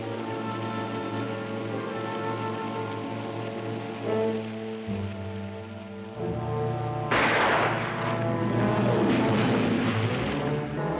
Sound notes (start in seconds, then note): 0.0 dramatic music; 7.1 gunshot; 9.1 water splashes; 10.6 dramatic music